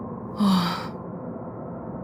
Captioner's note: sigh